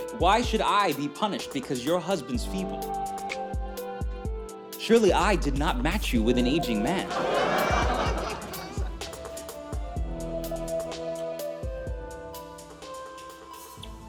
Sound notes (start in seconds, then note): 7.0 laughter